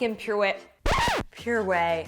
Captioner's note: record scratches